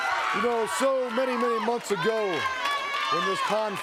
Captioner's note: crowd cheering